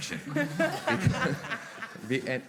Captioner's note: they laugh